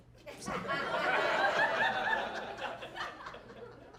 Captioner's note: audience laughing